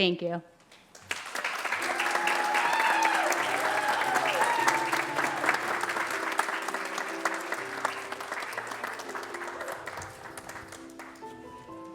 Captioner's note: applause